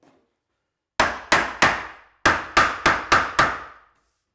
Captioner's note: mallet knocking